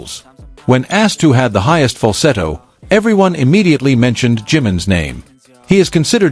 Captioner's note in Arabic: فالسيتو